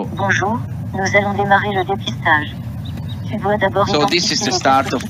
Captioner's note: woman speaking in foreign language